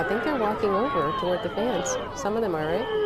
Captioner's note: cheers